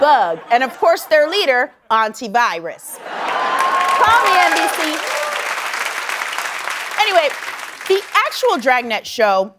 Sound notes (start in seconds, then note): 5.0 applause